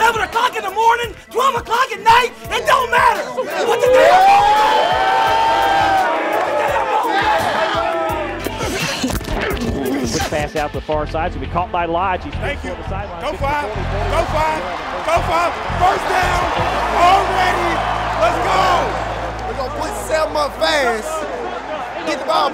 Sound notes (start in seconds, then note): 4.9 cheering; 8.9 hitting and grunting